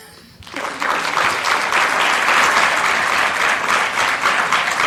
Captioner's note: applause